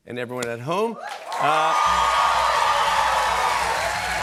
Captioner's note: cheers and applause